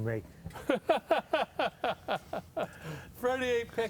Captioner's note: laughter